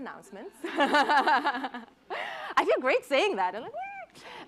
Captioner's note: laughs